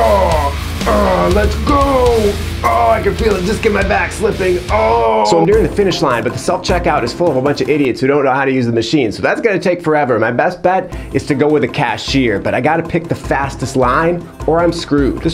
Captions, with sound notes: (grunting) Let's go! Oh, I can feel a disc in my back slipping. (groaning) So I'm nearing the finish line, but the self checkout is full of a bunch of idiots who don't know how to use the machine, so that's gonna take forever. My best bet is to go with a cashier, but I gotta pick the fastest line or I'm screwed.